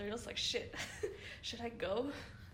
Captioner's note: laughs